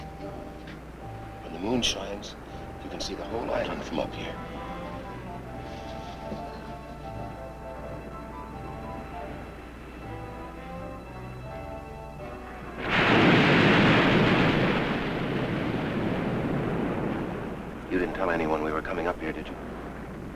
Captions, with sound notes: When the moon shines, you can see the whole island from up here. (dramatic music) (waves crashing) (waves roaring) You didn't tell anyone we were coming up here, did you?